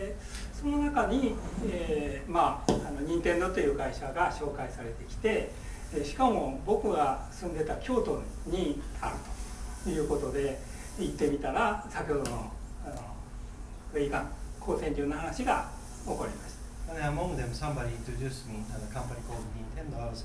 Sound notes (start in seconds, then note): 0.0 speaking in foreign language; 2.7 tapping